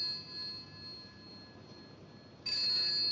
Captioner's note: phone Ringing